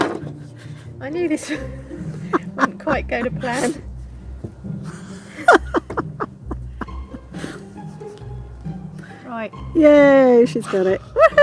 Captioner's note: more laughter